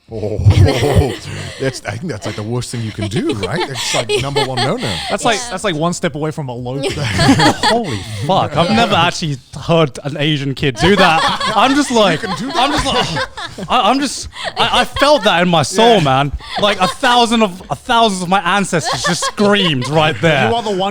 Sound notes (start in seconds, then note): 6.8 laughing